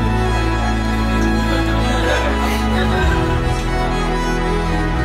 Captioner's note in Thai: เสียงหัวเราะ